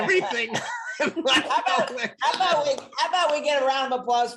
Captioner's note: all laughs